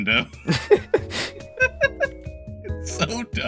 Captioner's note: both Laughing